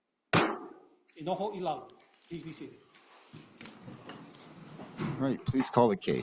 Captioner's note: gavel bangs once